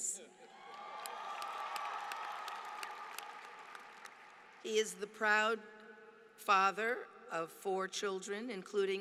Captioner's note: applause